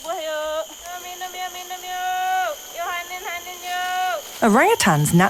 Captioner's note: in foreign language